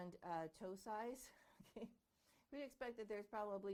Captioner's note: chuckling